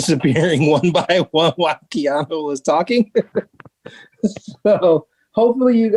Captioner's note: chuckling; chuckling